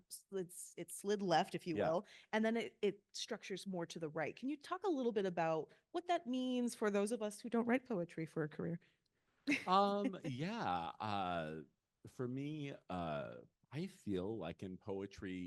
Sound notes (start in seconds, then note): 9.6 laughing